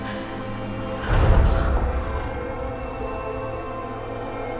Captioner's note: sinister Voice